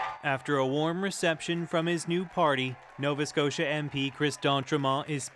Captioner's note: cheers and Applause